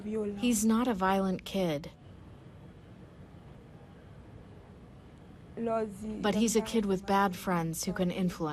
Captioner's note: through translator